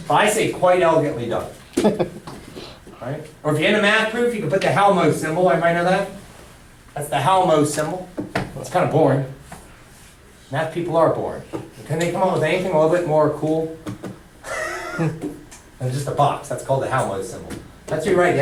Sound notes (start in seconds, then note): 1.8 laughter; 14.4 laughter